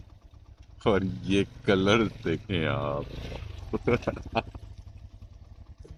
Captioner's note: laughing in joy